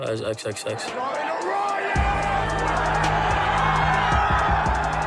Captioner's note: fans shouting